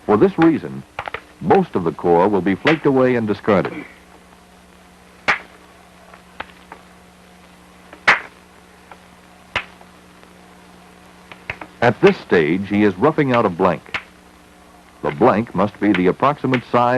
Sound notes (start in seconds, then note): 5.3 sound of hammering rock